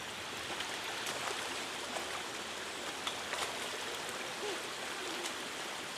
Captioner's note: the sound of falling into water